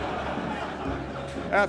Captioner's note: audience laughing